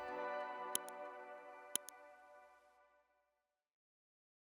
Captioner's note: mouse clicking